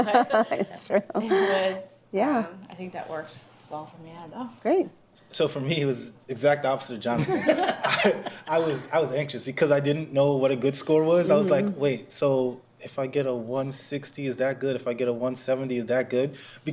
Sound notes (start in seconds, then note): 7.2 everyone laughs